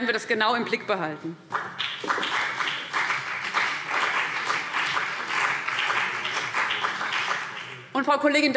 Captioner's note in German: Beifall CDU und BÜNDNIS 90/DIE GRÜNEN